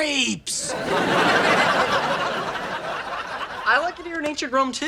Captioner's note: audience laughing